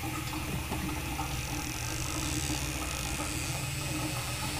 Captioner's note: door creaking